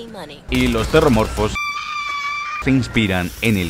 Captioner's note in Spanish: Grita